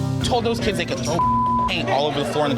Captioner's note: beep